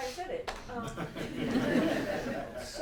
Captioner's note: laughter